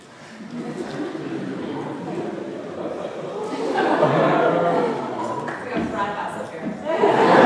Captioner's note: audience laughing